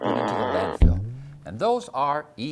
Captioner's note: thump!